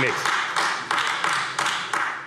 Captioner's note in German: Beifall AfD